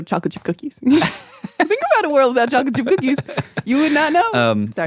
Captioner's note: laughs